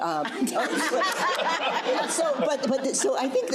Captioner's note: crowd laughing